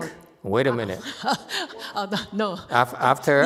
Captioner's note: speaker 2 laughs